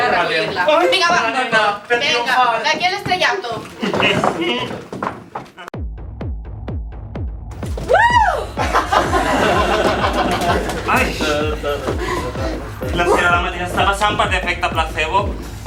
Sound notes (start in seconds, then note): 5.8 techno music; 8.3 laughs